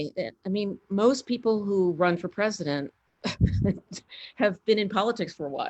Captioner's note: laughs